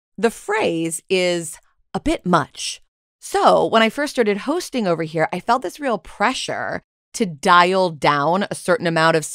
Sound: none

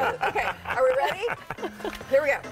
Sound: laughter

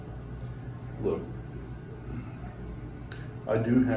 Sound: sighs

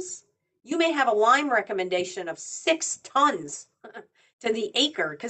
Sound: chuckles

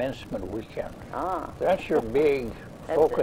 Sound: laughs

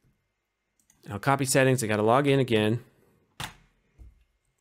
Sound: click

